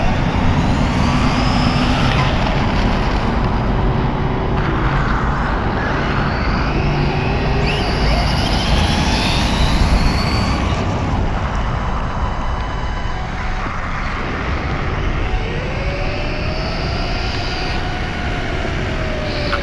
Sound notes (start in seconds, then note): 4.7 electric motor screaming; 19.4 electric motor screaming